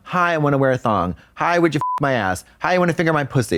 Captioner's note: beep